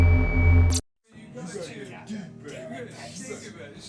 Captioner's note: overlapping chatter